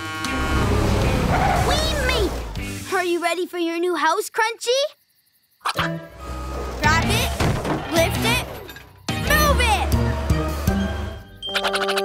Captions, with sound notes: [horn honking] We made it! Are you ready for your new house Crunchy? Grab it, lift it, move it!